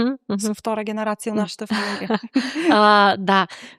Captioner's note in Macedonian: смеа; тешко дишење